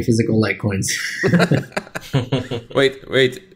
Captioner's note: chuckles